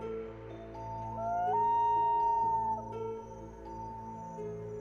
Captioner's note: wolf howling